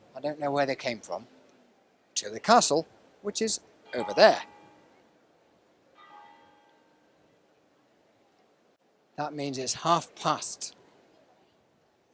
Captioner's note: bell tolls